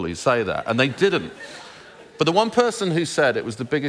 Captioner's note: laughter